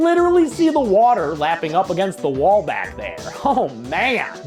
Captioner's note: laughing